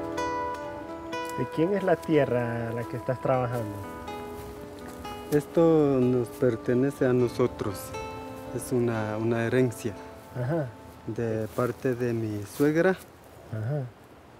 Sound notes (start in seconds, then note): 1.4 speaking in foreign language